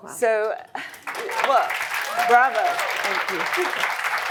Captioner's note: audience clapping